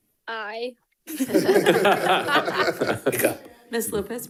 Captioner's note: board member laughs